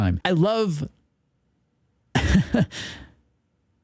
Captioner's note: laughs